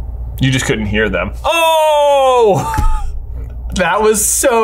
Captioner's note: laughs